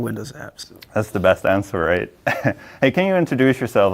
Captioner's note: chuckles